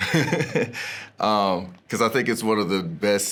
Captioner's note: laughs